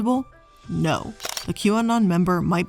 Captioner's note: camera shutter clicking